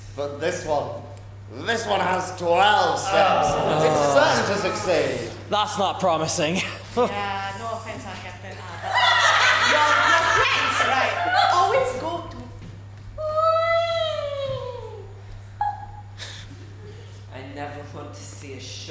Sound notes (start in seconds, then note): 5.6 Pirates groan; 8.6 audience laughs